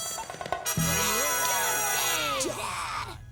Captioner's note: cheering